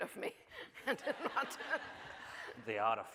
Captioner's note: audience laughing